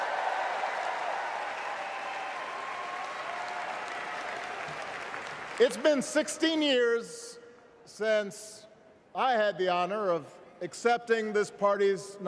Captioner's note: cheers